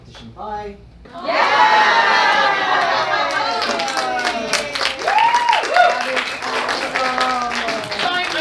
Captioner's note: audience cheers